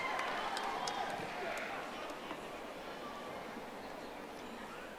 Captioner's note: audience applauding